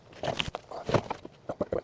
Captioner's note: pig snorting